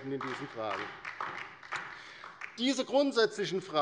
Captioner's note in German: Beifall bei der LINKEN